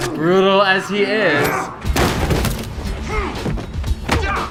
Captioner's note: men grunting